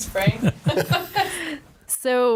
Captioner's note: laughing